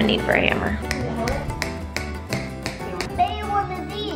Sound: hammer tapping

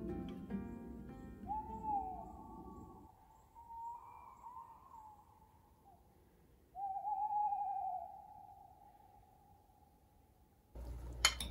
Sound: owl hooting

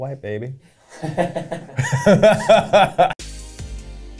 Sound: laughter

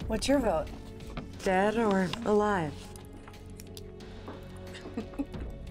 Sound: chuckles

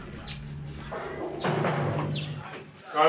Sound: knock knock

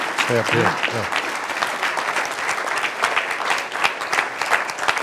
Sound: applause

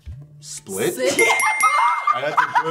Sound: bell chiming; laughing

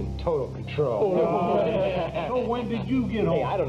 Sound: men laughing

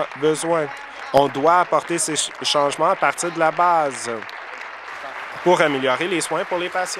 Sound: applause

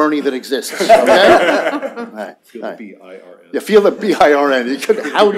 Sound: laughter

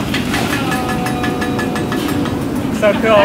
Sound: metal clanging

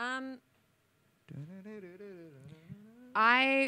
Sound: imitates piano

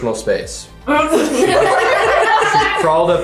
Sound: group laughs

